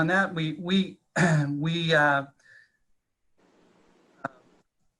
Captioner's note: clearing throat